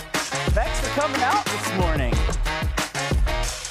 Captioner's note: applause